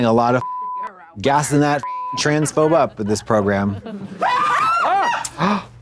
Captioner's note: beep; people screaming; Trixie gasps